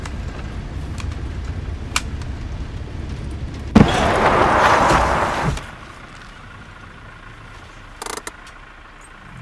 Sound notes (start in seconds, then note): 4.0 car wheels grind